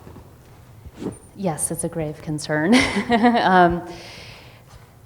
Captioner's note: laughs